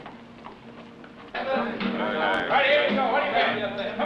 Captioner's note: chattering